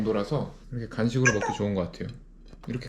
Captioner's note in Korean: 카톡